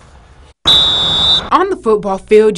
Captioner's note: whistle Blows